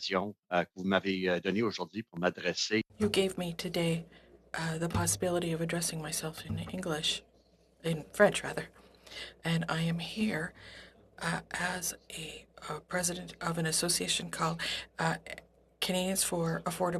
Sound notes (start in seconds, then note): 5.6 speaking French